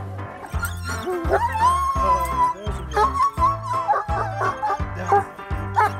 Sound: dog whines; dog barks

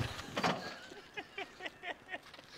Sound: laughs

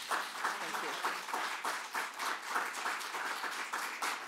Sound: applause

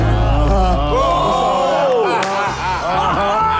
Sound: men exclaim

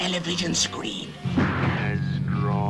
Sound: gun bangs

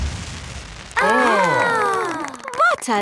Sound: exclamations

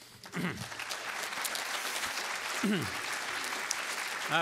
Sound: applause

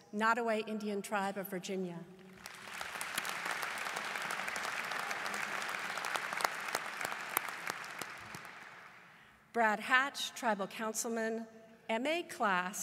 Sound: applause

